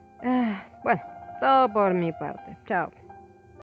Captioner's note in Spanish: suspiro de alivio